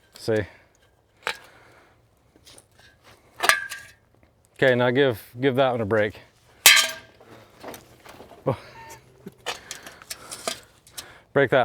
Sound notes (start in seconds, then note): 1.2 pole snapping; 6.6 pole clanging; 8.4 host laughing